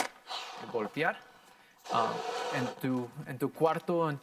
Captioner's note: air whooshing